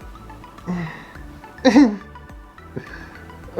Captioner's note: giggle